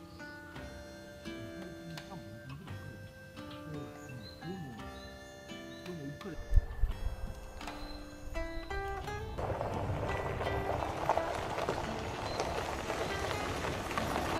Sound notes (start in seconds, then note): 5.5 laughs